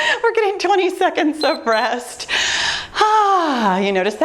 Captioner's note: timer beeps